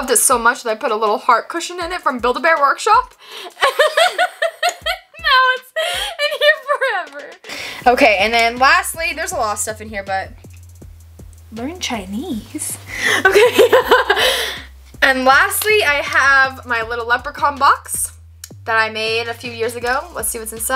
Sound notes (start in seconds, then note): 3.5 laughs; 12.9 laughs